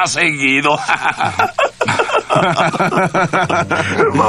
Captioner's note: both laughing